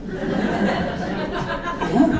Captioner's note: audience laughing